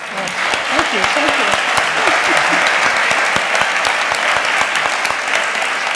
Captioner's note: applause